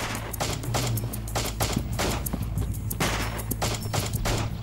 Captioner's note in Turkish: Silah sesleri